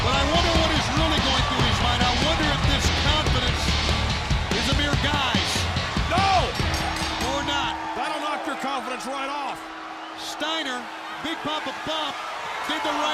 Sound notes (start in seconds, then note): 6.5 bell ringing